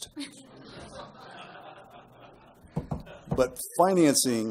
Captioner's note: laughter